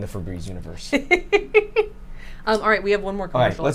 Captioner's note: chuckles